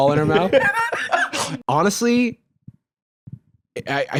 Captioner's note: laughs